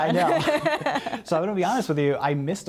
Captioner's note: laughter